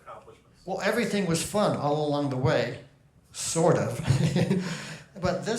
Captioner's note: chuckles